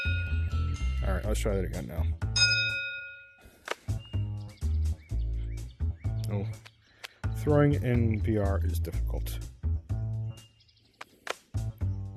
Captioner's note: ding; ding